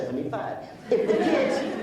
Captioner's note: laughs